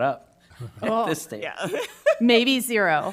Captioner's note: laughs